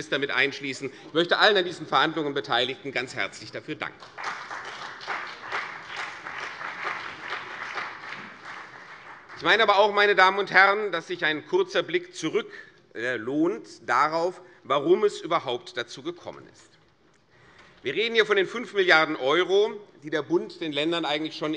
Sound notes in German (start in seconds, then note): 3.9 Beifall CDU und BÜNDNIS 90/DIE GRÜNEN